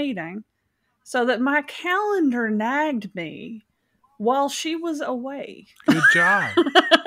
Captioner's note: laughs